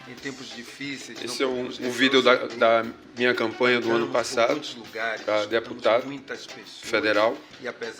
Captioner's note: speaking portuguese; speaking portuguese